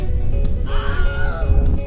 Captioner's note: Mandatory Wilhelm scream